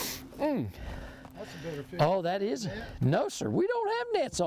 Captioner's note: laughs